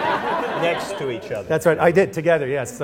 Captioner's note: laughter